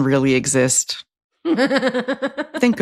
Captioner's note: laughs